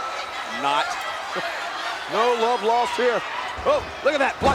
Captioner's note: laugh